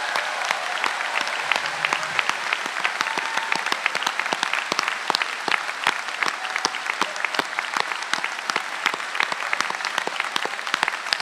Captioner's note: applause